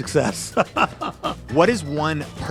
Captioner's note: laughs